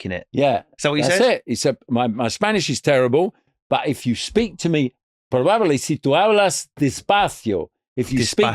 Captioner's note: speaking Spanish